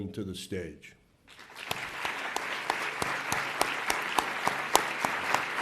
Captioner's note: audience applauds